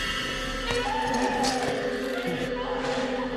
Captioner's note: cristina che grida